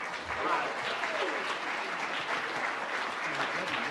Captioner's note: audience applauds